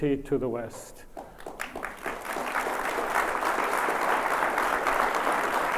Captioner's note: audience applauds